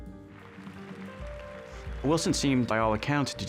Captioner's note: applause